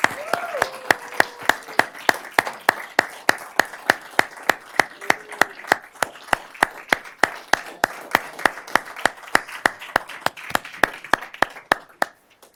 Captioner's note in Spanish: Aplausos y aplausos